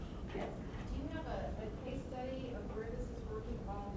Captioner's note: voiceover